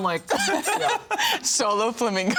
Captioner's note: jewelry jingling